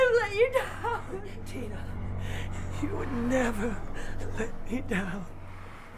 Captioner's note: sobs